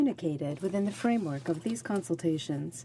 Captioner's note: speaking French